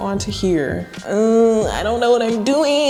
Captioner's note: groans